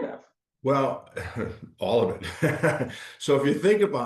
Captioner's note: laughing